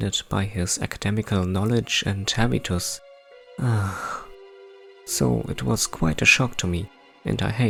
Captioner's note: sigh